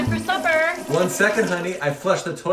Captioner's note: toilet Flush